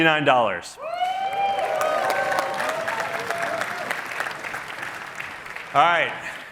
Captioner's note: cheering